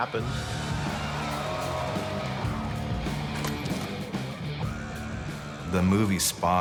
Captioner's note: cheering